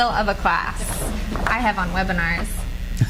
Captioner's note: cards flutter